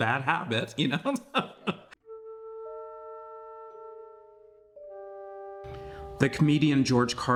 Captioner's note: laughs